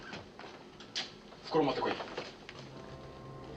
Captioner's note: speaking japanese